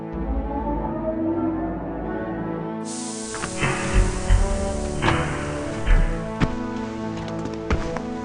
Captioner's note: battleship door opens